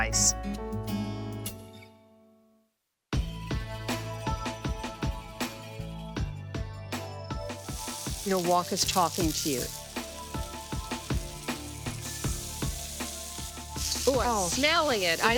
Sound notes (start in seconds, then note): 0.0 upbeat guitar music; 3.1 relaxed electronic music; 9.5 relaxed electronic music; 12.1 food sizzling